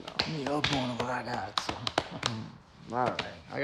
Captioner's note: speaking foreign language